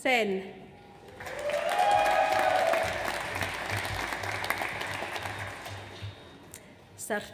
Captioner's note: audience applauds; audience cheers